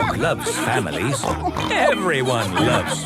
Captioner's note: snorts